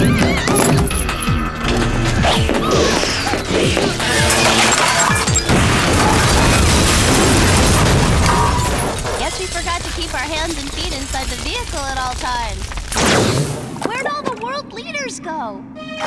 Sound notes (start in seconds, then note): 0.2 screaming; 4.2 beeping; 6.2 explosion; 8.2 squeal